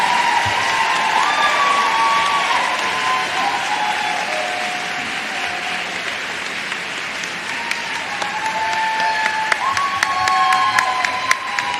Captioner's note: applause